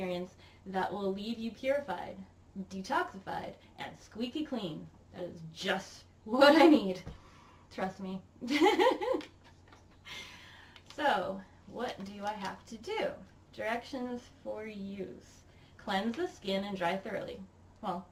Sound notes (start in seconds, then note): 8.4 giggles